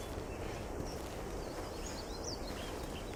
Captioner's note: birds chirping